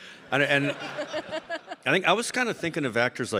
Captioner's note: audience laughing